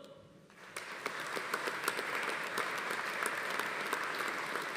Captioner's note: audience applauding